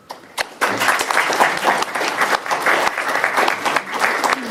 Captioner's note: applause